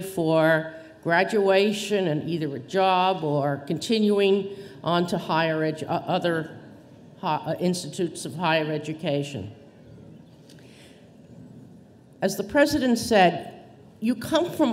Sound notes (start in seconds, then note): none